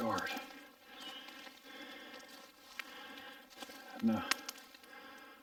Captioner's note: leaves crunching